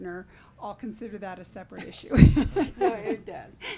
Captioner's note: laughing